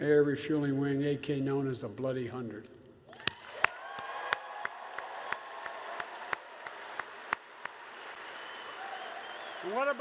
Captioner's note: applause